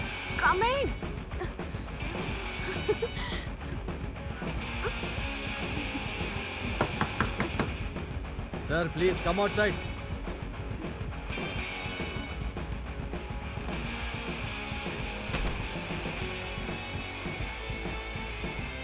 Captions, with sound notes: Coming... (Knock on the door) Sir, please come outside.